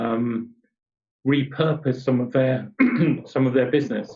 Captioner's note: clears throat